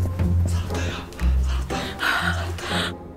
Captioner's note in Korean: 안심하는 숨소리